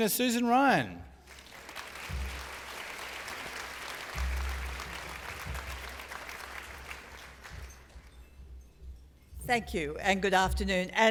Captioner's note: applause